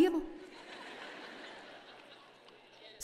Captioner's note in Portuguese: audiência ri